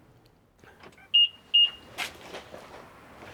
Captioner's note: beeping